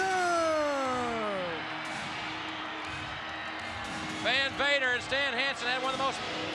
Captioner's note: applause